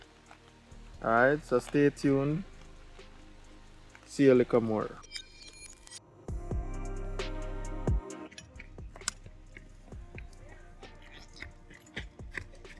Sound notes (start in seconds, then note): 8.5 fire crackling